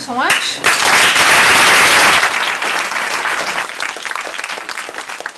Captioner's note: applause